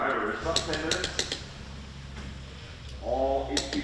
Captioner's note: tool clacking